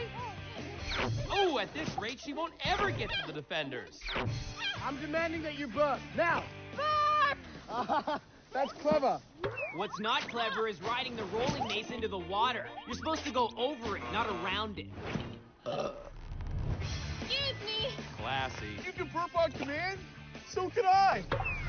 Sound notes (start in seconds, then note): 6.8 laughs; 15.6 burps